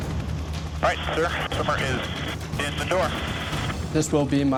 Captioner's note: man Over Radio